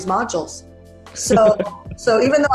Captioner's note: laughs